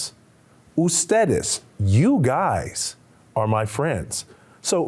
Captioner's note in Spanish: Señor hablando en un idioma extranjero